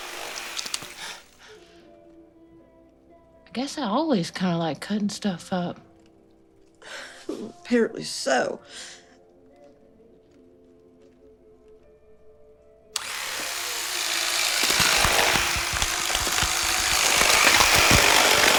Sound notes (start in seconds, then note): 12.9 knife whirring on; 15.6 flesh tearing